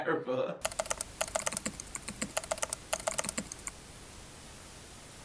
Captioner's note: keyboard keys clicking